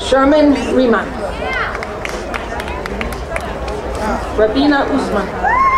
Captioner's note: crowd cheering